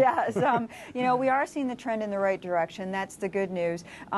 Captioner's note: laughter